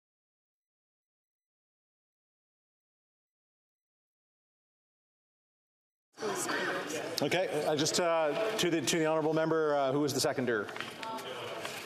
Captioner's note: moment of Silence